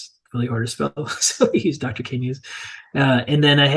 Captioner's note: chuckling